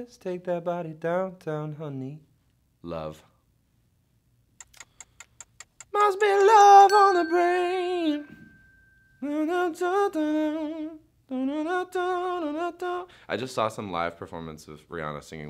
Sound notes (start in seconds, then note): 4.6 ticking; 9.1 humming melody